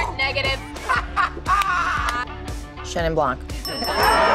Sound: laughs; cheering

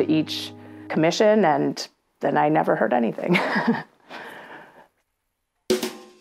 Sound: laughing

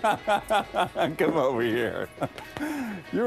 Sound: laughter

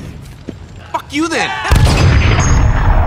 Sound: cheering

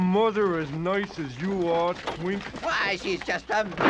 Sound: wagon bangs

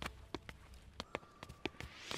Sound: footsteps

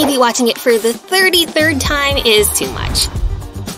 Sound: both snoring, but snores are deafening

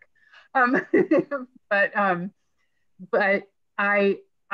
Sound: laughing

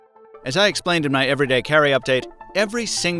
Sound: voiceover

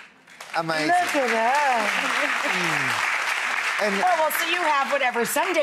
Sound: applause

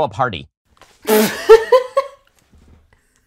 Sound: laughter

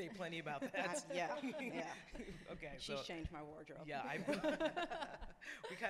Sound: laughs

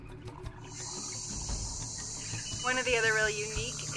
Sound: insects trilling and creatures screeching

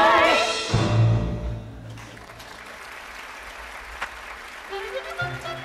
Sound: audience applauding

